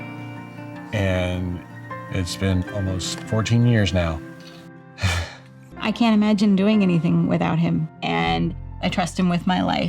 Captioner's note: happy sigh